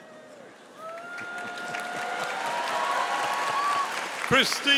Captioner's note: audience applauding